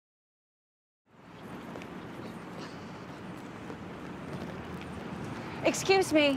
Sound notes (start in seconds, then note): 1.1 birds chirping